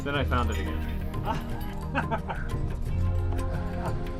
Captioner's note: laughs